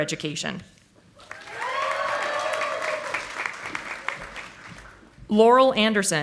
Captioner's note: audience applauding